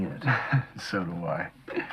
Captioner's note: laughing